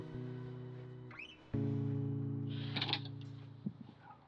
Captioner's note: door creaks open